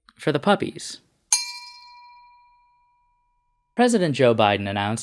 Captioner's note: bell sound